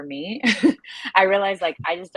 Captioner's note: laughs